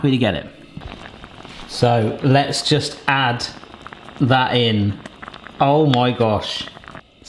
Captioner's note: sauce simmering